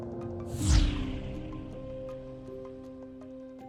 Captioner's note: air swooshing